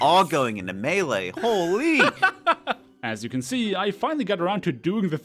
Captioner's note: laughs